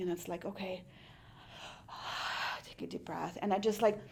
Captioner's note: inhales loudly